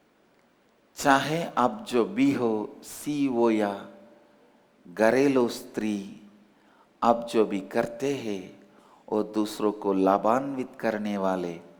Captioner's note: in hindi